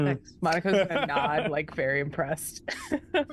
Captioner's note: Omega laughs